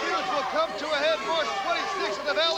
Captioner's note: crowd cheering